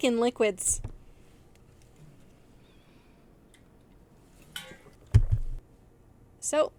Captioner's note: sounds of water bottles hitting desks